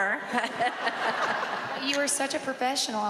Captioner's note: laughing; laughs